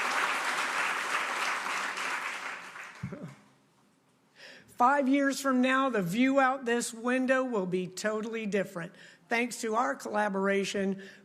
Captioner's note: applause